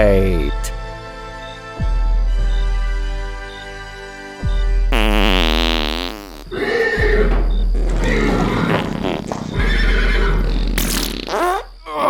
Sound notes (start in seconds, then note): 0.8 horse farts; 2.2 farts ongoing in the background